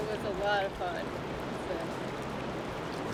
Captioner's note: water flowing fast